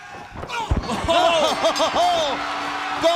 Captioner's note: bell ringing